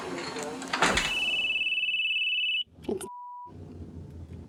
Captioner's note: phone ringing